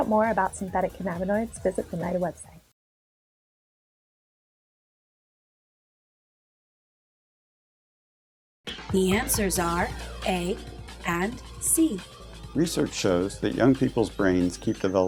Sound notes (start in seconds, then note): 9.0 female announcer speaking